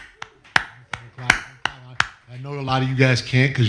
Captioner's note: clapping